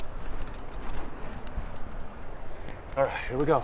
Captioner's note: wind blowing